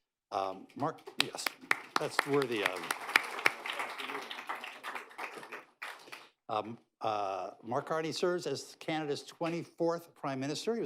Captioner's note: applause